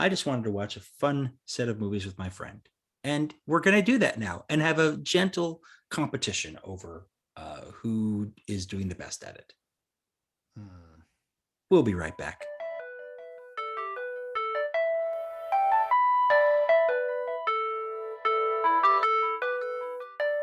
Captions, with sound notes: I just wanted to watch a fun set of movies with my friend. And we're gonna do that now and have a gentle competition over, uh, who is doing the best at it. We'll be right back. [Music interlude] [Sighs].